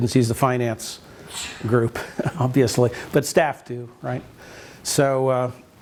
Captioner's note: chuckles